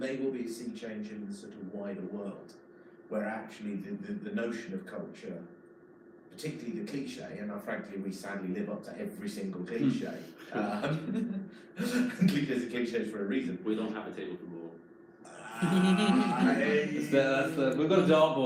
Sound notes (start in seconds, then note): 10.2 people laugh; 15.3 everyone laughs